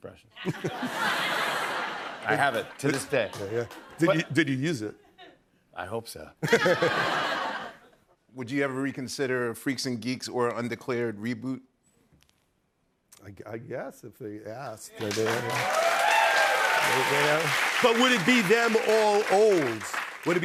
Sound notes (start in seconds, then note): 0.4 laughter; 6.4 laughter; 15.0 cheering, applause